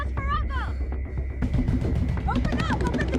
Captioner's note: banging on the door